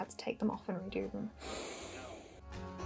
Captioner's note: huff of tired fury